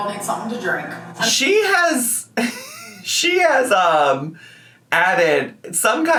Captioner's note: laughs